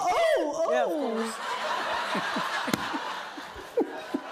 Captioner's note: laughter